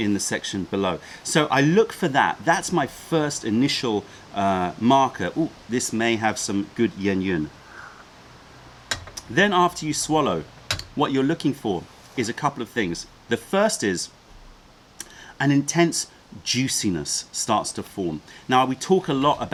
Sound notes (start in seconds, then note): 8.9 sips tea